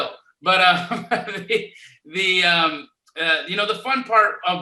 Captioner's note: laughs